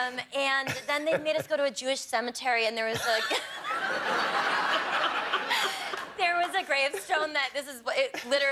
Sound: laughter

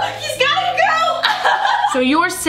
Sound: laughs

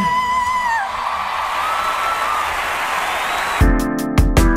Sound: audience applauding; upbeat music

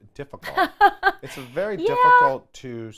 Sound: laughs

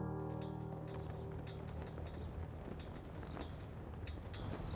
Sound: flags flapping

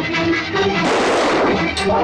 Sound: gunshot

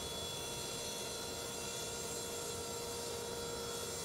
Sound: saw whirring

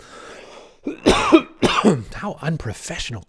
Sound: coughs

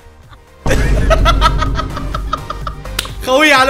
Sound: laughed

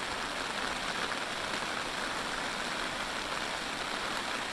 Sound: sound of heavy rain hitting the camping tarp

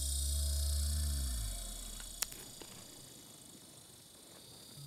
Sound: yawn

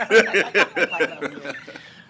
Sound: laughter

